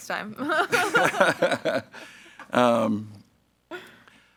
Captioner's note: group laughs